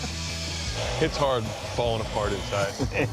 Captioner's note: laughs